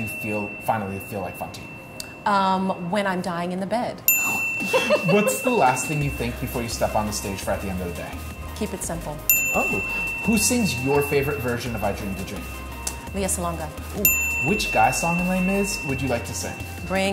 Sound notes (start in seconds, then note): 4.0 bell dinging; 4.7 laughing; 9.2 bell dinging; 14.0 bell dinging